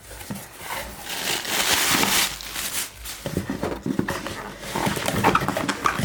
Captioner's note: plastic bag rustling; box squeaking